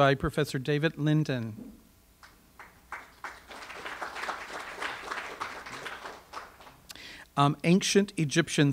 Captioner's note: audience applause